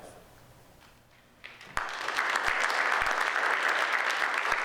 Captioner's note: audience applauds